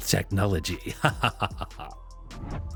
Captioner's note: chuckle